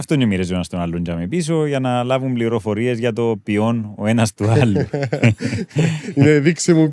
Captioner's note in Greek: γέλιο